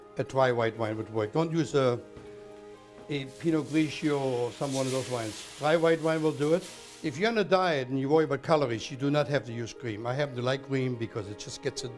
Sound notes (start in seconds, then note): 6.3 sizzling